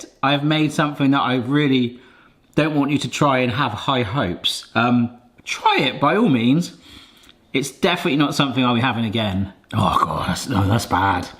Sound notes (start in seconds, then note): none